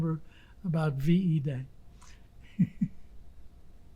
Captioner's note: laughing